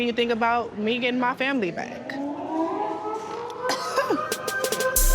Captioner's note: siren wails; laughs